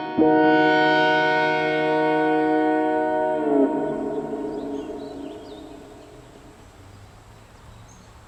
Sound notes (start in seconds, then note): 3.9 birds chirp